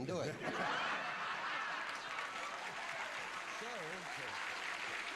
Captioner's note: laughter